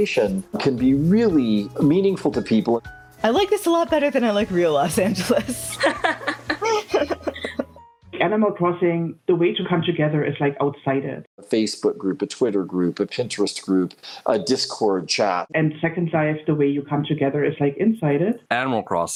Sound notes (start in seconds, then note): 4.9 laughing